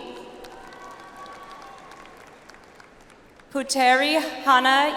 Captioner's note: audience applauds